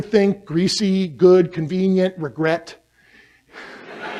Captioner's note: laughter